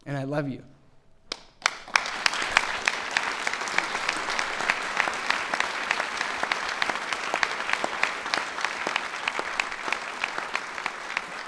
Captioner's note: applause